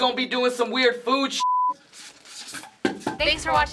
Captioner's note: mannequin clatters